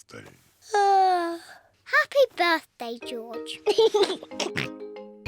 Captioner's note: yawns; laughs and oinks